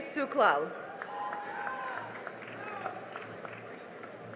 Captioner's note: cheering and applause